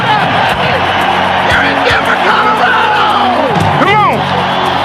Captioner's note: crowd cheering